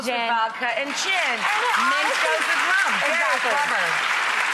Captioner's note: audience clapping